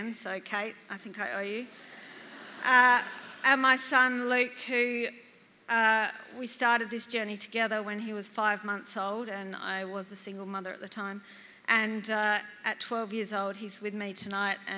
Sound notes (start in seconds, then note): 2.0 laughter